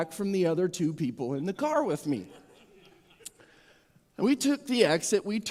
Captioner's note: audience Chuckles